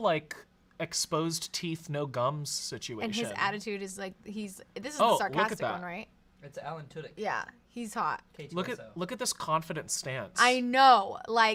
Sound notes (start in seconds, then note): none